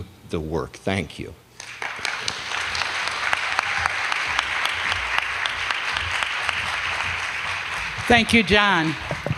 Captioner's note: applause